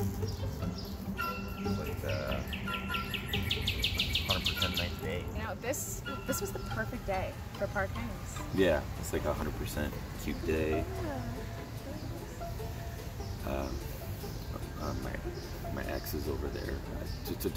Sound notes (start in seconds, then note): 0.3 cheery music; 4.5 birds chirping